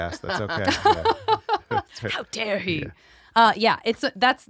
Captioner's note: they laugh